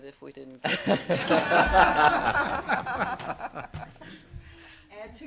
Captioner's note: audience laughter